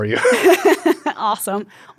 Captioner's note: both laugh